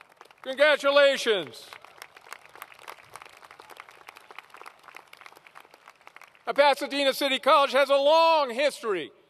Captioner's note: applause